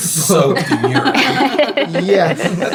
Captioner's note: laughing